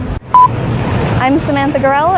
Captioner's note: beeping